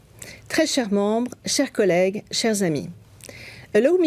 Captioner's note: speaking french